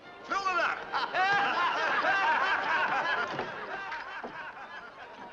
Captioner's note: men laugh